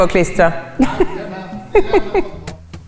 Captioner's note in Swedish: skratt